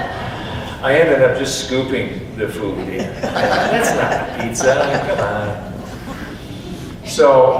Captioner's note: audience laughs; audience continues laughing